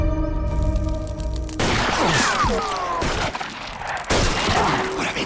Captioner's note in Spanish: Disparos